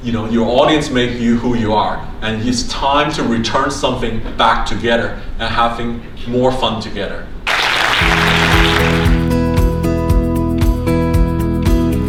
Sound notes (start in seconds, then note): 7.4 audience applause; 7.9 upbeat acoustic music